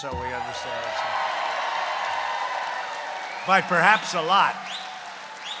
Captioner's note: applause